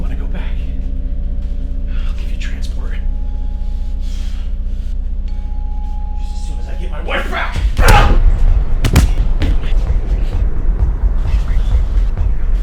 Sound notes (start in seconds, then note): 7.7 thudding; 7.8 grunting; 10.0 tense music